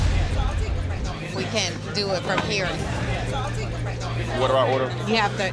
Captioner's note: customers chattering